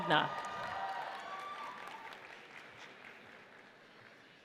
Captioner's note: audience cheers